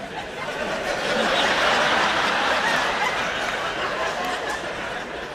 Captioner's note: laughter